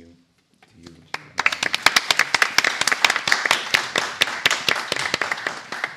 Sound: applause

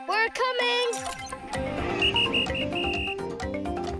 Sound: whistling

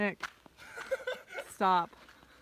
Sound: laughter

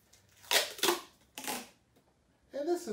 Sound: tape squeaking

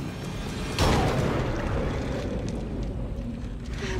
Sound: gun fires

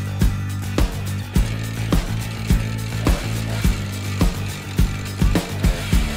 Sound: chainsaw noise

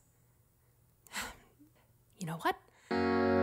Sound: sigh

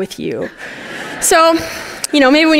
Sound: laughter

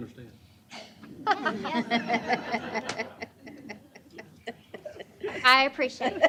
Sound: laughter

